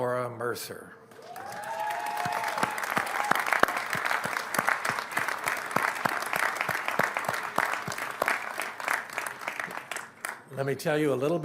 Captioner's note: applause